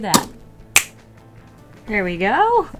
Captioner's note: snaps fingers